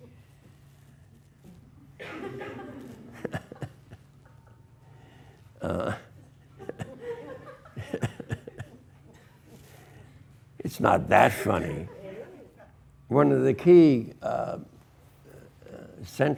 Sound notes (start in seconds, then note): 0.4 students laugh; 3.1 laughs